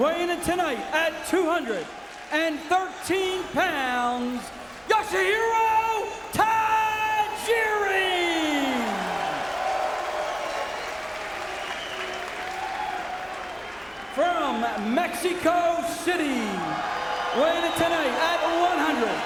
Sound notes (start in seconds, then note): 7.8 audience cheering